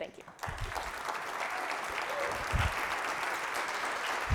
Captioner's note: applause